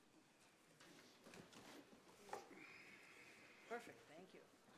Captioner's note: chairs rustling and rattling